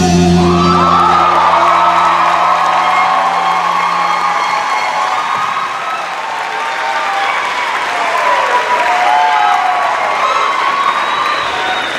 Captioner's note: cheers and applause